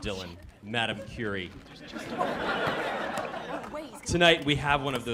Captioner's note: laughter